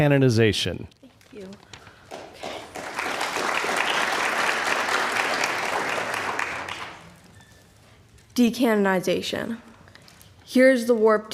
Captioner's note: applause